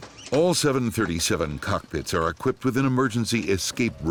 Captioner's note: voiceover